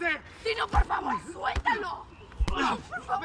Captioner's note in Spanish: Golpes